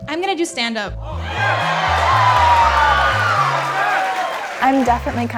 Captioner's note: cheering